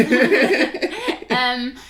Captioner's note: laughing